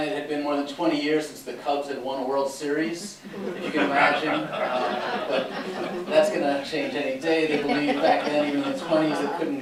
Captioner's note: laughter